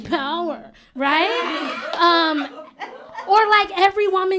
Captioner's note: laughter